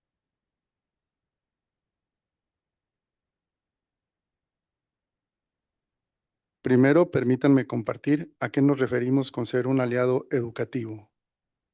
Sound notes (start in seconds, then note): 4.6 non-english speech